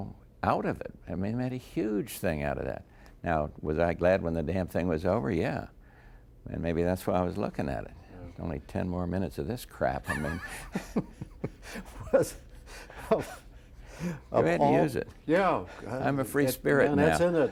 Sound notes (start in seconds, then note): 10.0 laughter